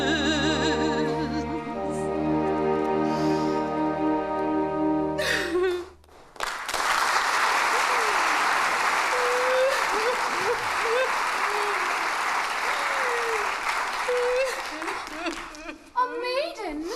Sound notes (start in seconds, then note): 5.2 Margaret bursts into tears; 6.1 applause; 6.3 Margaret bursts into tears